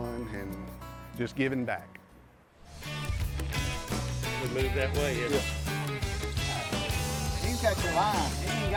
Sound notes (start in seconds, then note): 2.7 upbeat country music; 4.2 men chatting